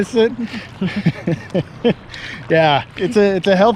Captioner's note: laughs